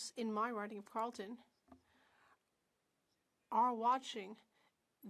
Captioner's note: speaking French